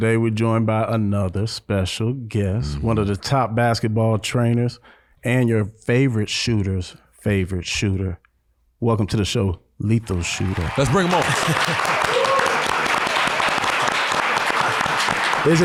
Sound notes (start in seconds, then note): 12.0 all applauding